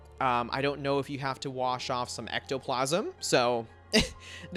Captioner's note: chuckles